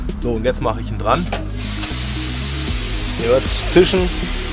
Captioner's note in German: klack pfffffft